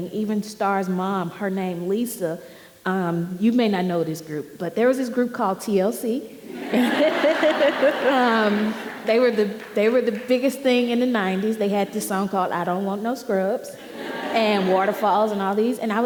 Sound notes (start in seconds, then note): 6.5 audience laughing